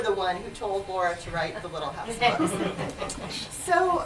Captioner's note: laughter